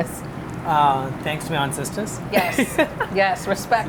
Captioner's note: laughs